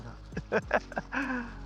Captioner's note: laughing